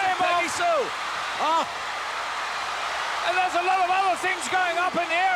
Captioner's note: crowd cheers